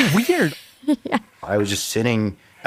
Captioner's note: laughs